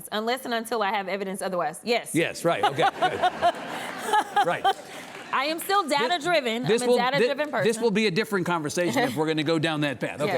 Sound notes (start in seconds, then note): 2.6 audience laughs